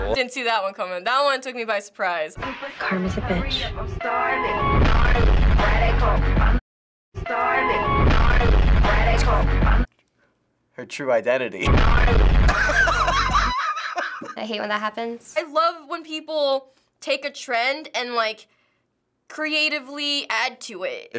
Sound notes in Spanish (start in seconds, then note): 4.6 la música se intensifica; 12.4 risas